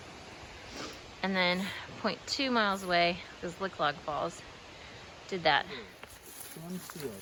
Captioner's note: sniff